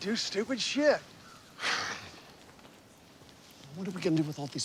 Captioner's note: sighing